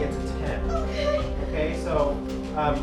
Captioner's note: whimpering